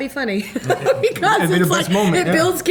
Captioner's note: laughter